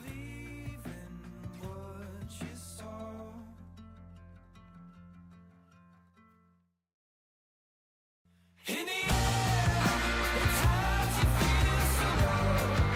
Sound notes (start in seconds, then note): 4.6 silence